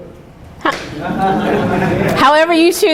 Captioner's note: students murmuring; chuckling; students laughing